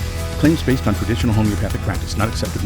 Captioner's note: voiceover